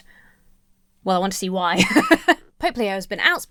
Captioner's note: laughs